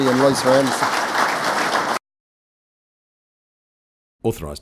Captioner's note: crowd applause